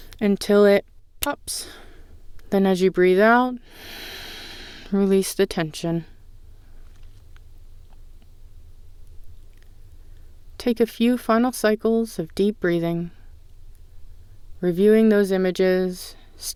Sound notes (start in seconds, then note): 3.6 exhale